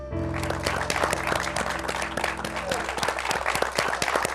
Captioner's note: applause